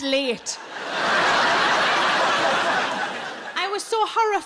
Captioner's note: audience laughing